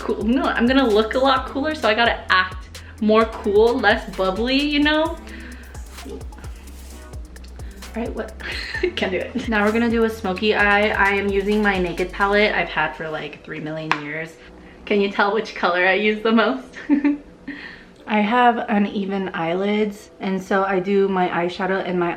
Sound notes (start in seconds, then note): 8.4 laughing; 16.7 giggling